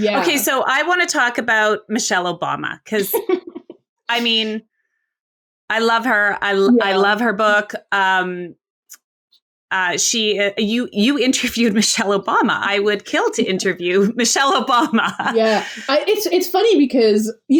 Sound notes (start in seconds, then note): 2.9 laughs; 15.2 laughs